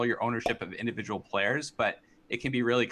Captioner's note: popup pops